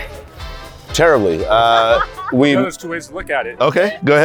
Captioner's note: laughs